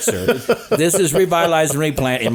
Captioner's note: laughing